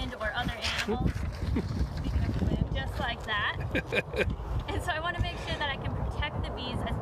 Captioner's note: wind blows papers off table; laughs